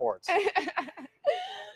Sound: laughter

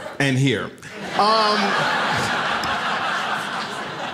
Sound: audience laughs

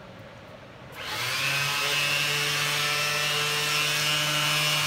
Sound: tool buzzing

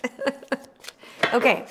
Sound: laughs

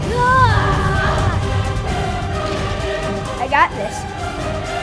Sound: triceratops roaring

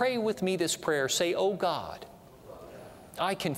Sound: audience repeats prayer throughout

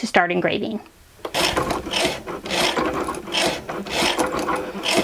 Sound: machine whirring

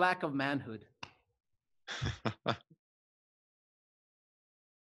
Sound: laughing

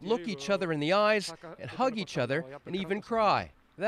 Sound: speaking alternate language

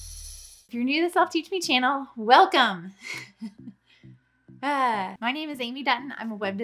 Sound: chuckles

